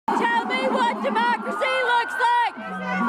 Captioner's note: chants; unison chant